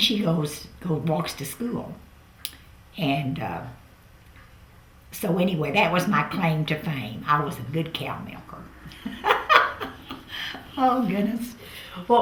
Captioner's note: laughs